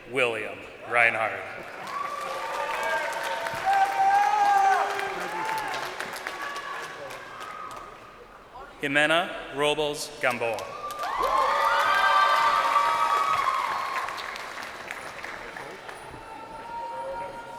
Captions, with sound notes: Jager William Rinehard. (crowd cheering) Jimena Robles-Gamboa. (crowd cheering)